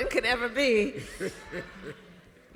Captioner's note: laughter